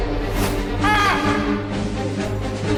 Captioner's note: war music; aaah!